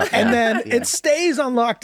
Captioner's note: laughs